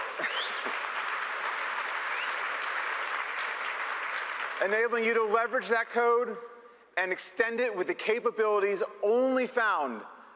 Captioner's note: applause